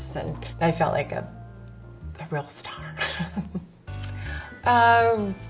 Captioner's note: laughs